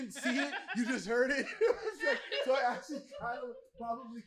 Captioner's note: laughter